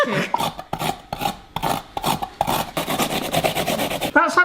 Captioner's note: grates vigorously